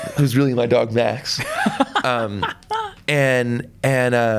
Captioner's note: laughs